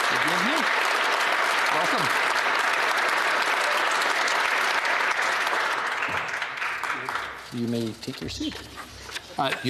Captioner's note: applause